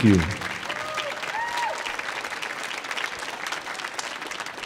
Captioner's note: audience applauding